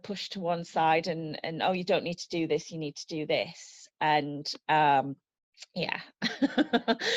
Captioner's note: laughs